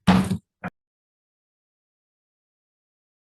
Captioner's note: gavel thuds